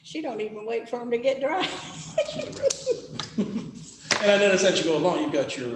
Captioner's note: laughs